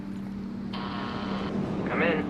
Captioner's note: door Buzzer